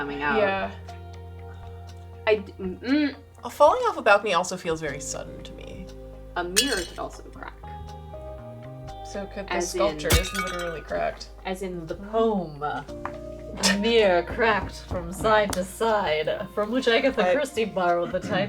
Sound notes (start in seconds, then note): none